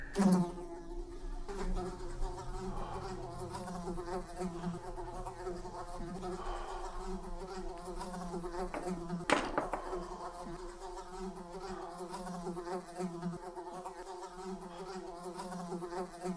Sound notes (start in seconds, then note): 0.2 fly buzzing; 2.8 Cornelius gasping softly; 9.3 swatter clattering; 10.8 fly continues buzzing